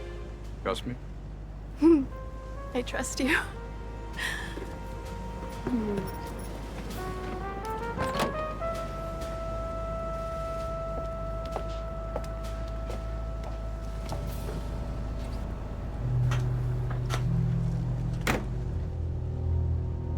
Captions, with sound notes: Trust me? (giggling) - I trust you. (dramatic music)